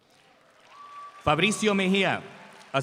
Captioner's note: audience applauds